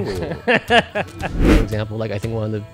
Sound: laughs

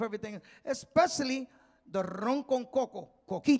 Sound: speaking in Spanish

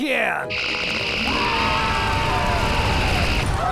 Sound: screaming

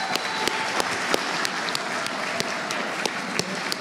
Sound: cheers and applause

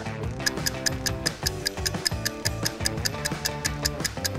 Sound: clock ticking

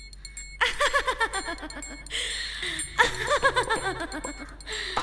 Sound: laughs

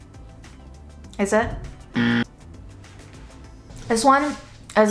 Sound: buzzer sounds

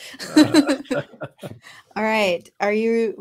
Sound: group chuckling

